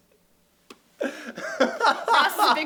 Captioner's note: laughs